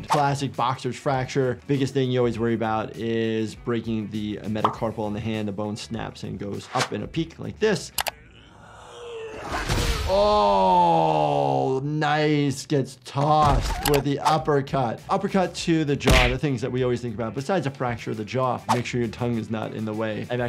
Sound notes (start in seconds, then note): 9.4 punch lands; 10.1 Green Goblin grunts